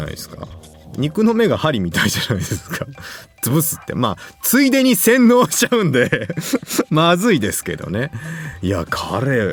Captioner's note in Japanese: 笑い